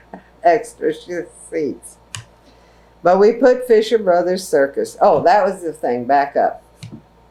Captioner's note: laughs